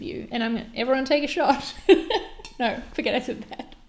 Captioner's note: laughs